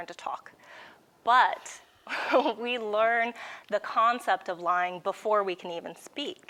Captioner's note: giggles